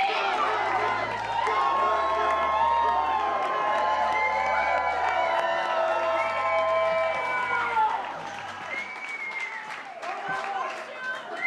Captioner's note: cheers and applause